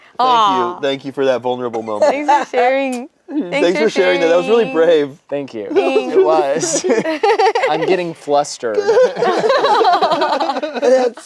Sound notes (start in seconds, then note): 5.7 laughs; 8.7 group laughs